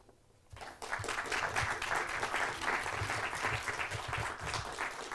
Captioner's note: students clapping